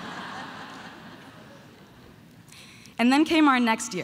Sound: audience laughing

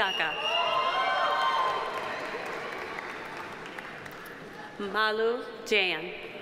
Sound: audience cheering; audience applauding

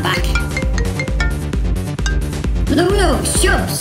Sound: mobile Phone Ring Tone

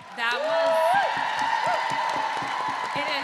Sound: audience cheering

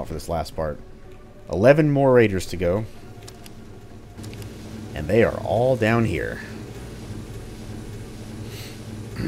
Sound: clears throat

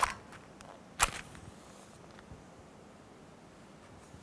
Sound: sound of striking match

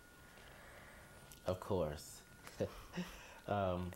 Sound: laughs

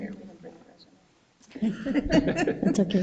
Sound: speaking distantly

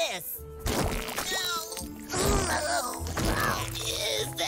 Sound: groaning

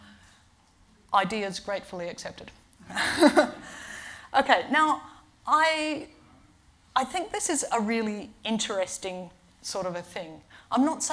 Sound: laughs

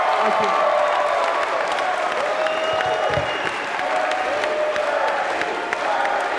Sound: crowd chanting: Bernie, Bernie

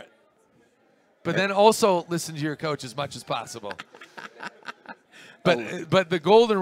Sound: laugh

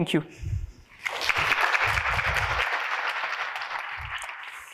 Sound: audience applauds

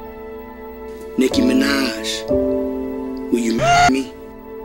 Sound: scream

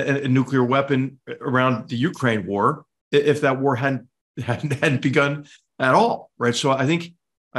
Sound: laugh

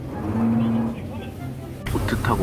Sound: boat sound

